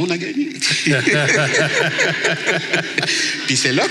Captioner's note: laughs